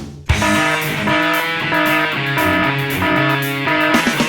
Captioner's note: alarm beeping